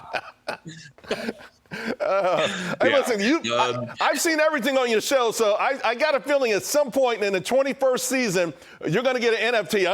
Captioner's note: laughter